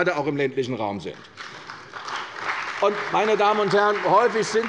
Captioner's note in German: Beifall bei der CDU und dem BÜNDNIS 90/DIE GRÜNEN